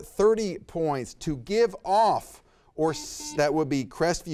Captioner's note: buzzer beeps